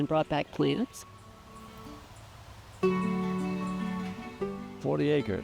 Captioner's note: soft breeze